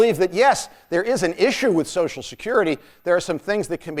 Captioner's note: none